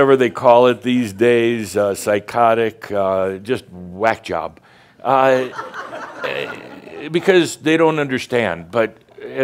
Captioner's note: more chuckles